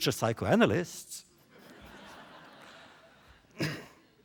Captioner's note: laughter